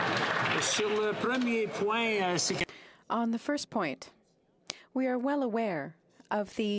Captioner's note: some Applause